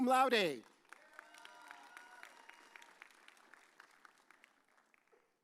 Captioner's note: audience cheers